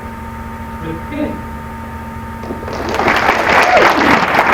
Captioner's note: applause